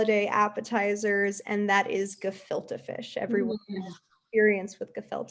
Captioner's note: chuckles